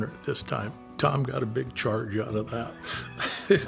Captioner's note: laughs